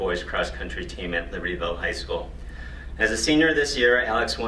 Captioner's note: none